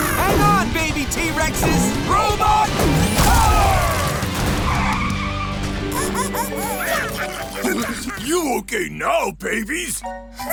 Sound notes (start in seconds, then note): 3.0 screeching; 5.9 squeaking